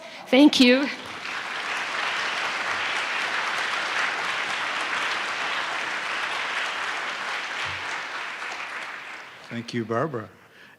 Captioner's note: applause